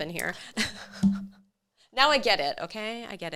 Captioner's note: laughs